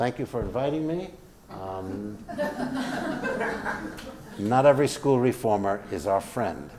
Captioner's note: laugh